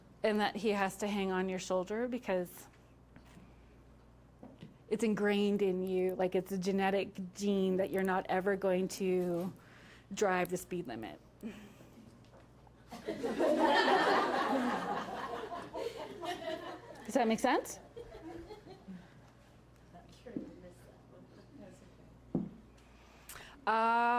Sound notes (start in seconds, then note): 12.9 entire room laughing